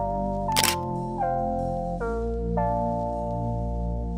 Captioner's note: shutter clicks